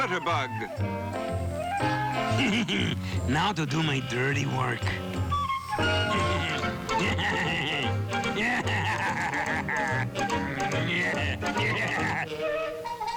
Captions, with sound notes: -Now to do my dirty work. (evil laugh)